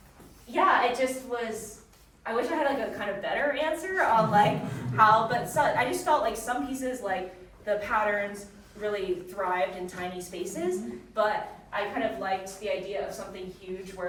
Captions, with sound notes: yeah, it just was... I wish I had, like, a kind of better answer on like, how, (audience chuckling softly) but I just felt like some pieces, like the patterns, really thrived in tiny spaces, but I kind of liked the idea of something huge,